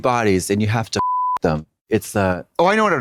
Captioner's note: beep